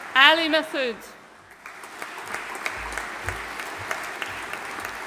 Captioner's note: audience applauding